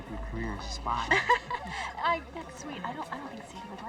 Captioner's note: laughs